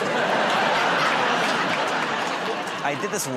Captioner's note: laughter